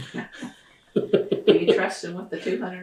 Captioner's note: laughter